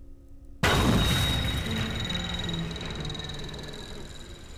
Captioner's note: item smashes